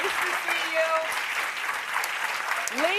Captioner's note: applause